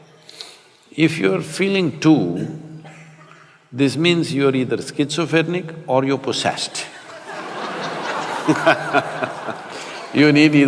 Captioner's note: laughter